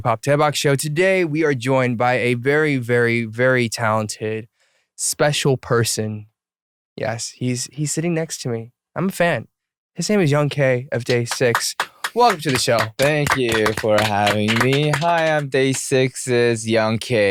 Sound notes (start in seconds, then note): 11.0 clapping; 11.0 background clapping noises